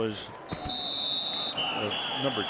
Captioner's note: whistle